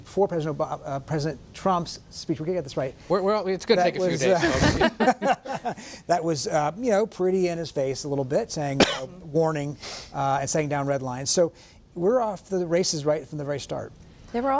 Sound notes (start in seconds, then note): 4.3 laughter